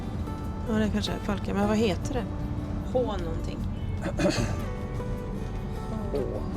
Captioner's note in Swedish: harklar sig